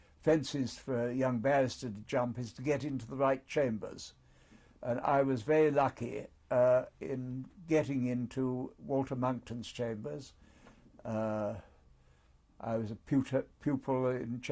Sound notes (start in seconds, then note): 10.0 pauses for 3 seconds